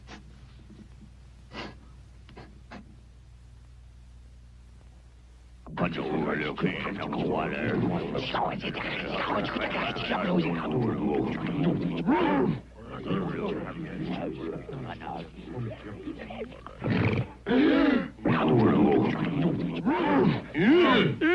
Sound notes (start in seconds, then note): 5.7 cavemen babbling; 15.0 cavemen inhaling; 16.1 beast growling; 18.0 cavemen babbling